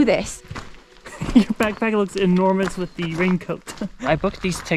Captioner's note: giggles